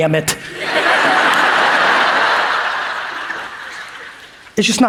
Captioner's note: audience laughs